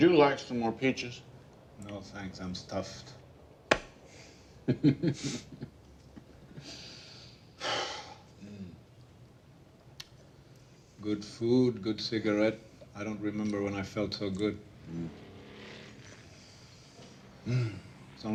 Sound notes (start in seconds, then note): 4.6 chuckles; 8.5 breathes deeply